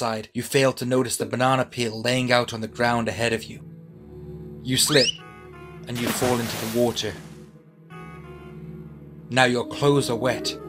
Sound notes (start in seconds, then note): 5.9 splash sound effect; 6.0 slipping sound effect